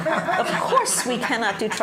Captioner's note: audience laughs